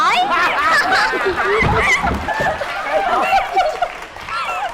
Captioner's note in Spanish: risa